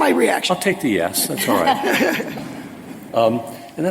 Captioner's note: laughter